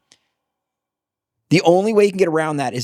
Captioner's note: none